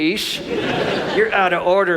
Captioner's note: audience laughs